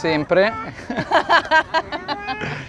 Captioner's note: laughter